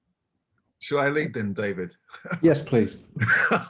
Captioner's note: laughs